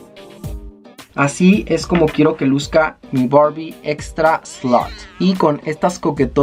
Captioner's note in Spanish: Exclama Bromeando